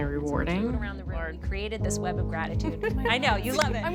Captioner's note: meeting chatter